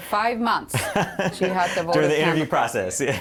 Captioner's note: laughter